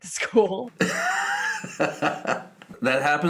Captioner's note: laughing